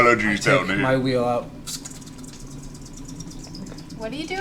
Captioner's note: whizzing noises